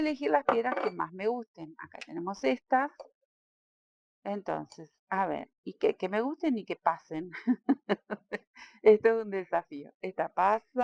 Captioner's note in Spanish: risas